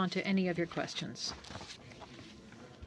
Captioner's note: speaking French